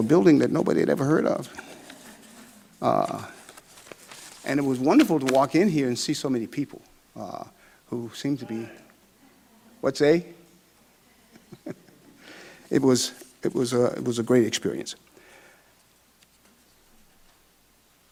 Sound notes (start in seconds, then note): 8.9 man in audience shouts; 11.1 laughs